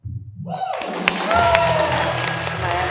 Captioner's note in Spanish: Aplaudir